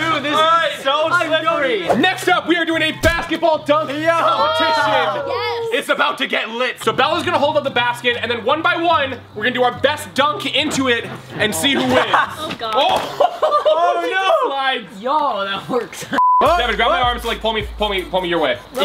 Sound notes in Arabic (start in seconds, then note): 13.0 يضحك